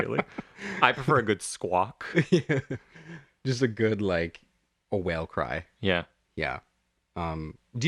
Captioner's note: laugh